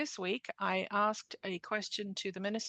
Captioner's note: speaking French